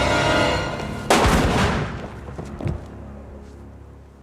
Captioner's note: guns fire